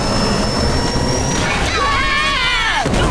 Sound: screaming; grunting

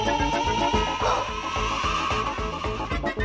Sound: exhales

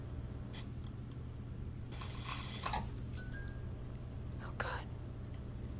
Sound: whispers

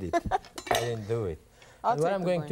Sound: laughing

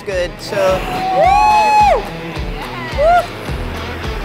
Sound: cheers

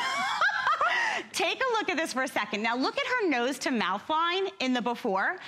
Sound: laughter

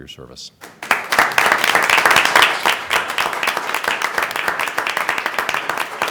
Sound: applause

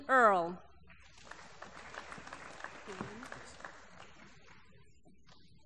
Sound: applause

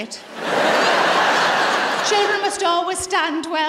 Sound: laughter

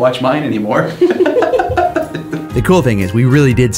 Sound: laughs

